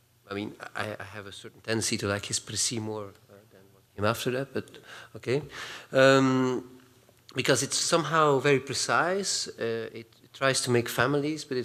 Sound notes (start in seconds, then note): 2.5 non-english